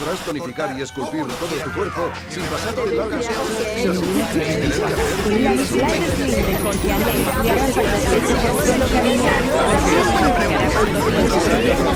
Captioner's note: annoying buzz of advertising